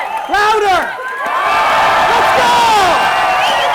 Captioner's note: crowd roars